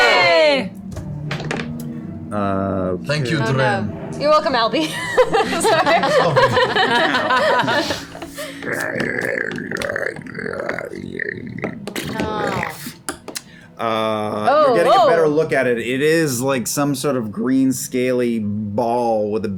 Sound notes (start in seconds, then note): 0.0 cheering; 5.8 gargling